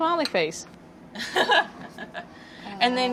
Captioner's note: laughter